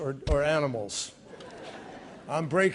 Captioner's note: laughter